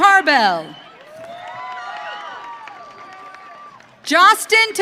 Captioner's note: audience cheering